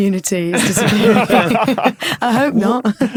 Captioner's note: laugh